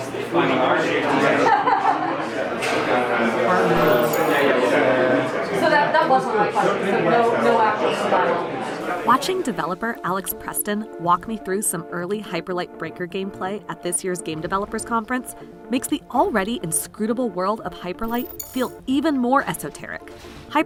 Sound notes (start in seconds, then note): 1.6 laughs